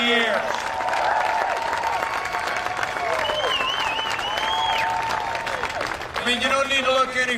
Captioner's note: cheering and applause